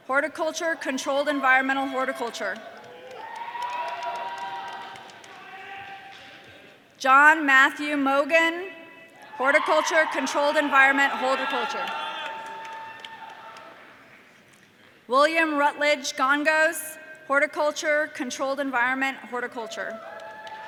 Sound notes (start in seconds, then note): 3.4 audience cheering